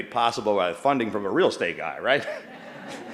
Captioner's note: laughter